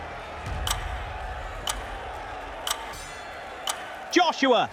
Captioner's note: dramatic music; ticking